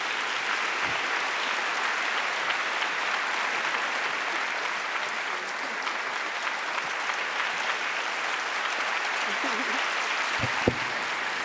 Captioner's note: applause